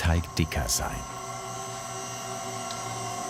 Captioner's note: whirring